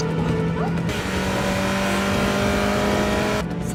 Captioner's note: Ferrari accelerating